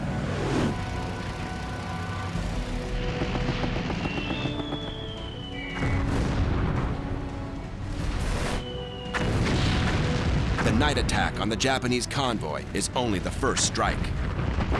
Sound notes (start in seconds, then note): 1.3 gunfire; 4.1 artillery whistle; 9.1 explosions